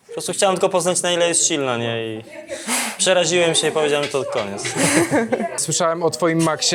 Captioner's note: laughs